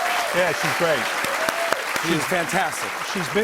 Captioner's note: cheers and applause